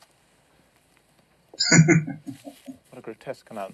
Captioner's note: chuckling